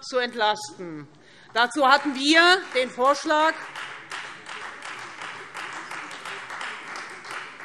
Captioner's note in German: Beifall Freie Demokraten